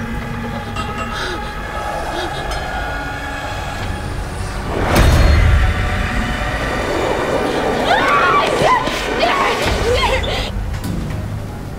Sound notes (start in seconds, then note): 6.7 growling; 7.8 Melanie screaming